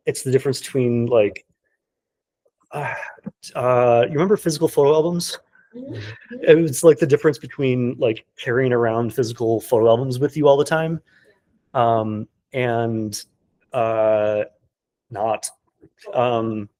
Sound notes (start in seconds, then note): 2.8 sighing